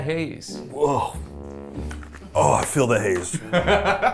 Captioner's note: exclaiming; laughing